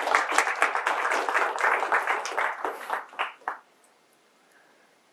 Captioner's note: applause